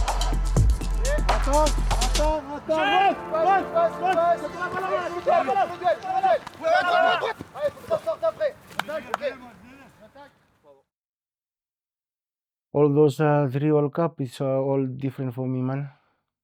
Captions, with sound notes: (yelling) All those three World Cup, it's all different for me mana.